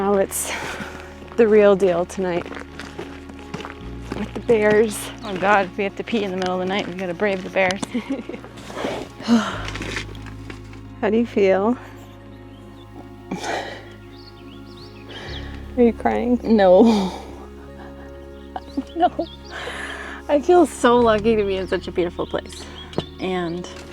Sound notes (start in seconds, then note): 15.5 breathes heavily out of exhaustion